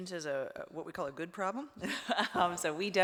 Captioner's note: laughs